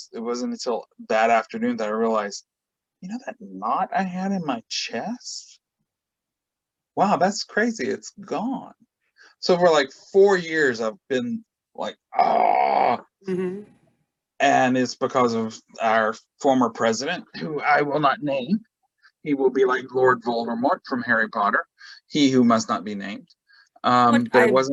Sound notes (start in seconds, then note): 11.8 groans